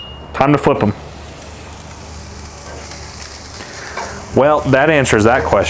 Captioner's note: filets searing